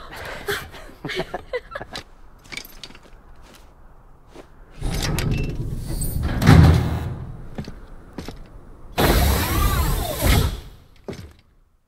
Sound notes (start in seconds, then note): 0.0 both giggling